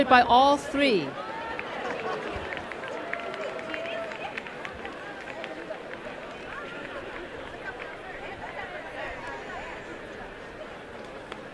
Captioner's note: applause and cheering